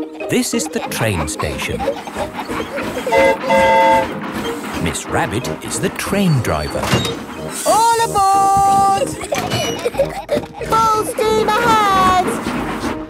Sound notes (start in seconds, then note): 3.1 train whistle toots; 9.7 giggling